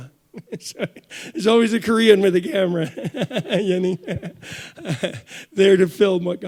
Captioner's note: chuckles; chuckles